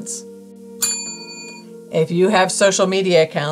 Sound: bell rings

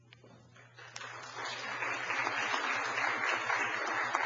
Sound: applause

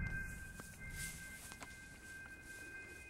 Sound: crunch of footsteps; soft music

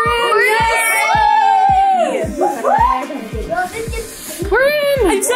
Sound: group cheers

